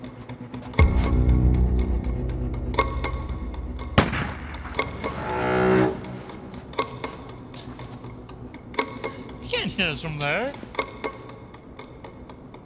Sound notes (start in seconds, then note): 0.6 suspenseful music; 4.0 gun fires; 6.8 suspenseful music